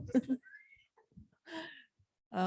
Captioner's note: laughter